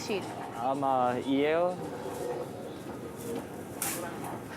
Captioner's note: speaks Korean